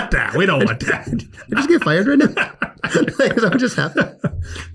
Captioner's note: laughs